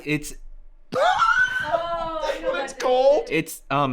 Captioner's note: laughs